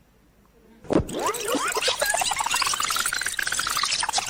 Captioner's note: tape squealing